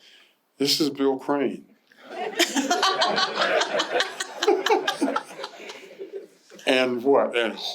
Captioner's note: laughter